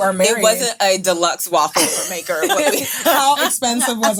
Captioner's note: women laughing